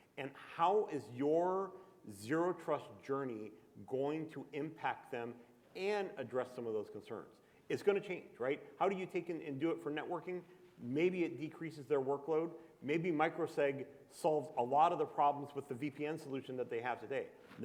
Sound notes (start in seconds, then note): none